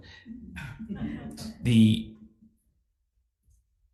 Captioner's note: crowd laughing